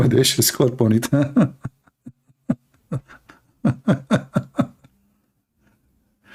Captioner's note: Ketawa